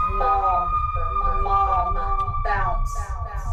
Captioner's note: echoes